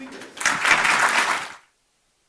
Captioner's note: applause